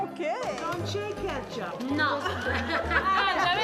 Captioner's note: speaking Italian